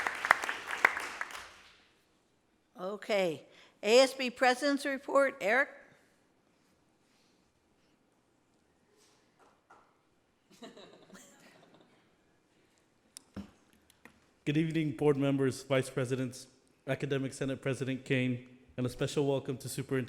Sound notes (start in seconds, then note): 10.5 laughter